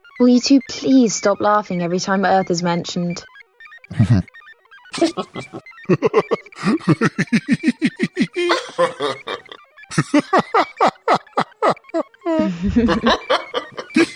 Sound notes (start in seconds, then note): 4.9 aliens laugh; 12.2 all three laugh